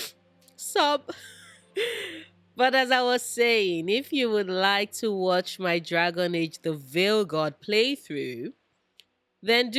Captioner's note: sob